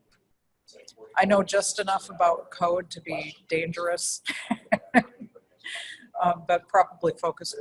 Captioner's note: laugh